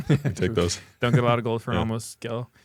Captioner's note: laughs